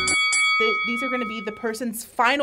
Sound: bell dings

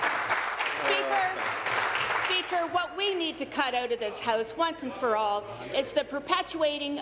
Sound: applause

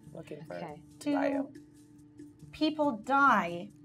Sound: none

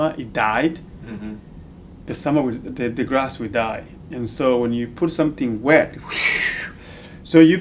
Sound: wooshing sound

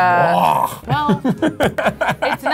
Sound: chuckles

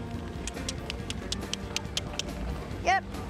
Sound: clicking with mouth

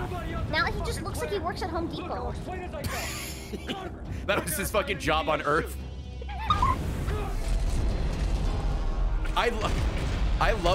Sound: laughs

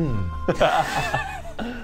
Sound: laughs

